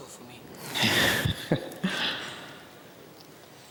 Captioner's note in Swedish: skrattar